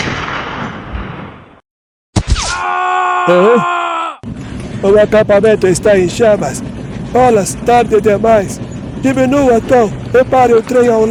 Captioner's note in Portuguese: grito